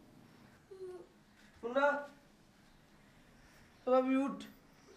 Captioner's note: Indian spoken audio